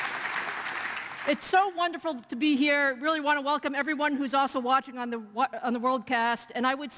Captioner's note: cheers and applause